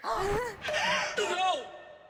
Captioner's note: gasp..!